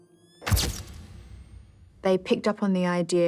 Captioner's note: camera snaps